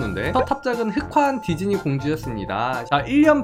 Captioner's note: voiceover